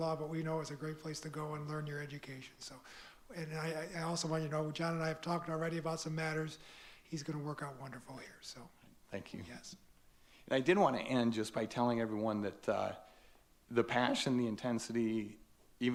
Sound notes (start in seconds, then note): none